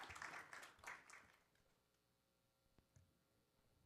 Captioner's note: applause